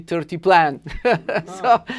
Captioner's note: laughs